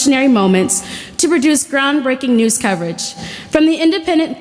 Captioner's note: none